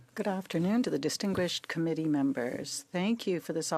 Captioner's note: speaking French